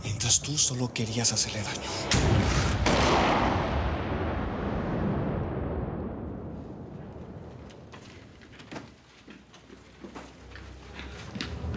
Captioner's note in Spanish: Disparo